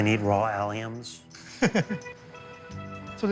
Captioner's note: chuckles